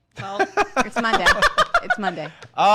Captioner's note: laughs